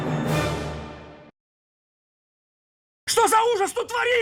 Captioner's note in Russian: тишина